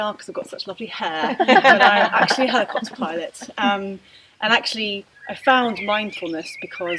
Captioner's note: laughter